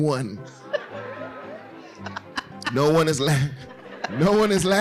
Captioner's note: laughing